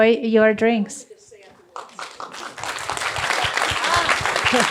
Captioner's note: applause